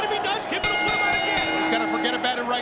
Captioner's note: bell rings